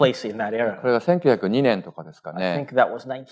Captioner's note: speaking japanese